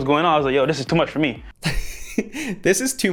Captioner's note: laughs